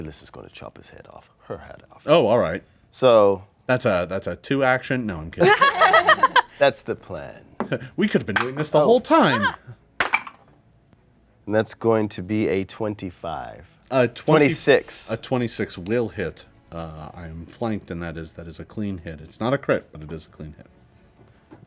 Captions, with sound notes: Ikyulys is gonna chop his head off, her head off. - Oh, all right. - So-- - That's a two action. No I'm kidding. (group laughs) - That's the plan. - We could've been doing this the whole time. - (dice roll) And that's going to be a 25, a 26. - A 26 will hit. I am flanked and that is a clean it. It's not a crit but it is a clean hit.